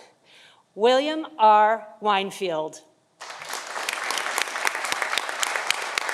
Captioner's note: audience applauding